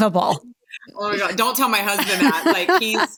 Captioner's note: laughter